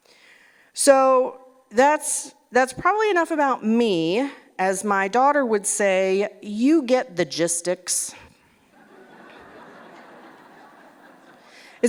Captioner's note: laughter